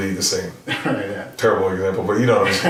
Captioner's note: laughing